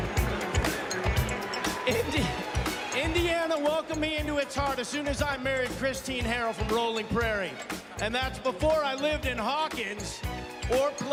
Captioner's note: crowd chanting "rudy"